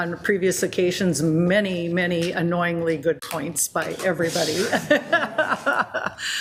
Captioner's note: laughs